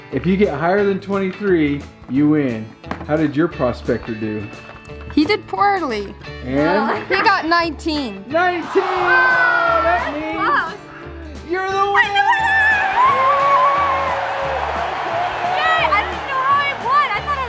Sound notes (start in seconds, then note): 12.9 applause